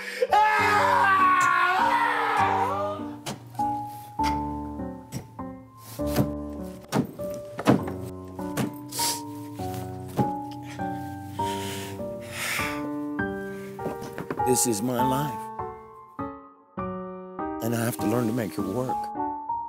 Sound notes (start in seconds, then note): 0.0 scream; 1.6 hammer pounding